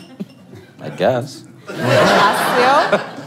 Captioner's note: laugh